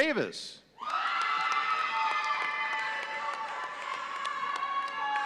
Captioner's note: audience cheering